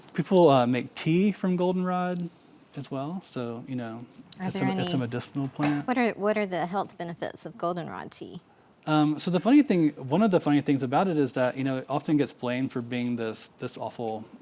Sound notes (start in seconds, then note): 9.9 scissors snipping